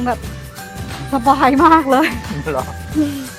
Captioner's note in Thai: ขำ